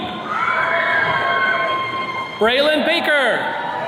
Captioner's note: attendees cheering